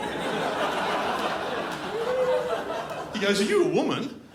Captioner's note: crowd laughs